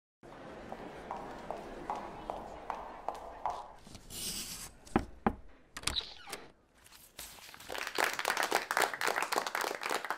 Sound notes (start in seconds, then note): 0.6 footsteps; 5.0 knock on door; 7.5 applause